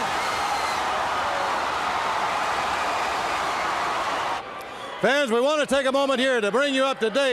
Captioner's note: crowd cheering